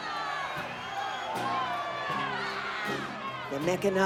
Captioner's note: crowd shouting; guitar strumming